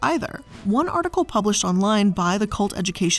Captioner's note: air whooshing